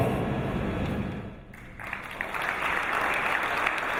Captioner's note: applause